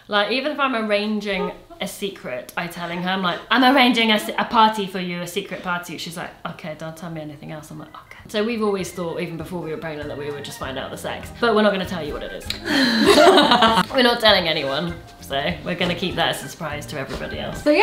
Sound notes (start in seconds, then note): 12.6 laughs